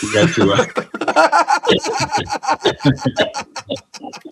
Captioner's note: all laughing